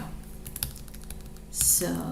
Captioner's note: keyboard clicks